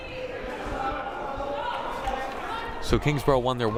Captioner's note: crowd murmuring